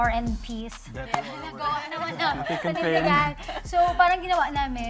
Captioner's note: laughing